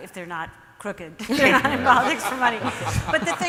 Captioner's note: audience and panel laughs